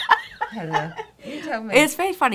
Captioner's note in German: lacht